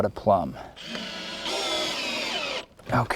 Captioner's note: drill whirring, no additional audio